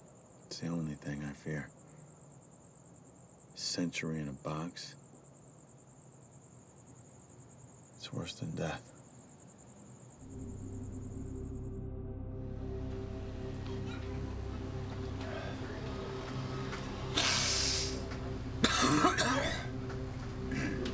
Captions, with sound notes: It's the only thing I fear. A century in a box, it's worse than death. [sniffs and coughs]